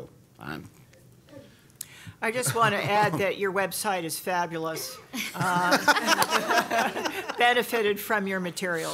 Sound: laughter

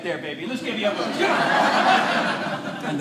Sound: audience laughing

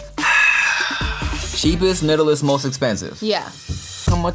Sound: sighs

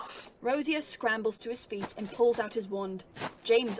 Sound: fabric rustling

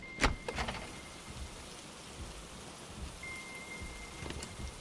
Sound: rain pattering

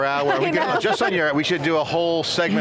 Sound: laughs

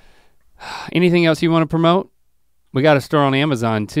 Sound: sighs

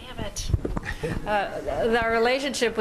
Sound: laughter

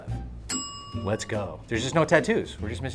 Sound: bell dings

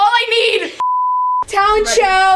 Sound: beeping sound

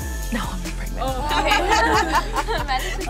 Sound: all laughing

